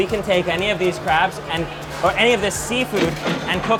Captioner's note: register chiming